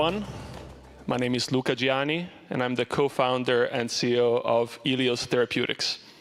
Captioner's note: applause